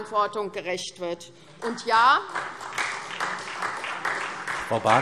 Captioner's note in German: Beifall SPD